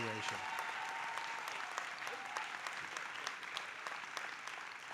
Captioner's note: audience applauding